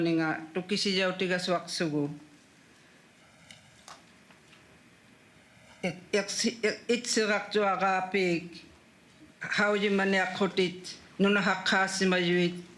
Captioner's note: speaking Indigenous Language